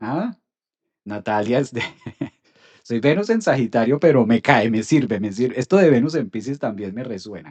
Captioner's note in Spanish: risas